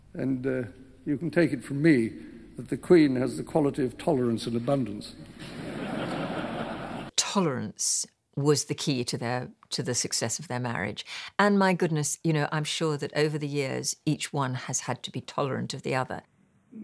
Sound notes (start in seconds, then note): 5.3 audience laughing